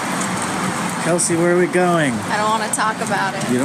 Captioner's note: excitedly